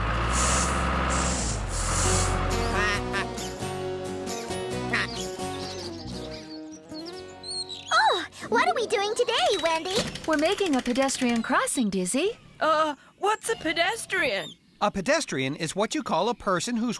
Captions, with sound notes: ( Engine Running ) ( Duck Quacking ) OH! WHAT ARE WE DOING TODAY, WENDY? WE'RE MAKING A PEDESTRIAN CROSSING, DIZZY. UH, WENDY, WHAT'S A PEDESTRIAN? A PEDESTRIAN IS WHAT YOU CALL A PERSON